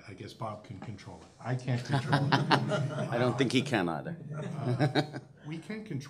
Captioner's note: laughs